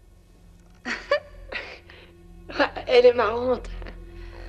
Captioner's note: woman chuckles